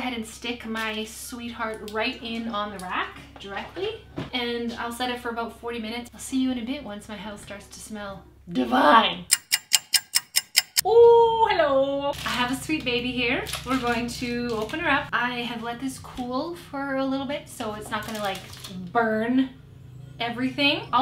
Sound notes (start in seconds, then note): 9.3 clock ticking; 13.2 foil rustling